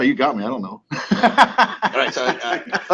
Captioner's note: men laughing